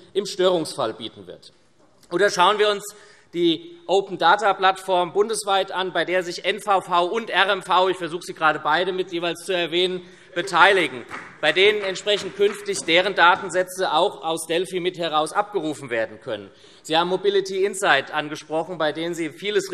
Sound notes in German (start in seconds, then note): 10.4 Vereinzelter Beifall SPD und BÜNDNIS 90/DIE GRÜNEN